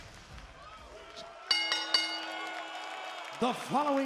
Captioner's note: audience cheering; bell chiming